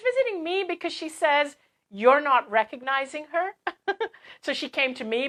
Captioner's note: laugh